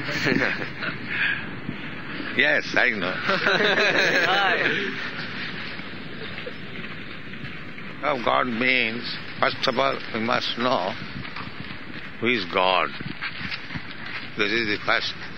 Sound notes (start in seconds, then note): 3.2 laughter